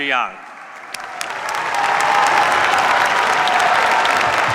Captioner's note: cheers, applause